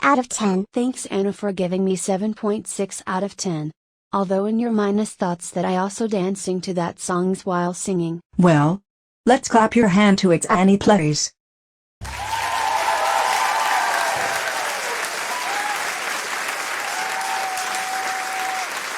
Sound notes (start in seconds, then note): 12.0 and Applause; 18.6 applauses Up For Her Performance